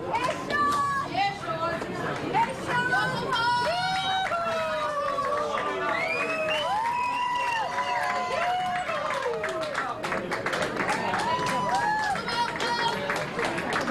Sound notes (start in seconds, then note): 6.1 cheers and applause